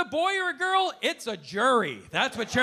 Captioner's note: audience laughing